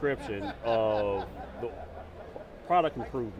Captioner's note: attendee laughing